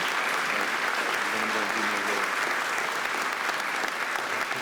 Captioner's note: audience applauding; faint conversation